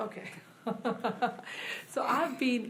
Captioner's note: laughs